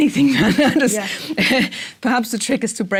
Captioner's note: laugh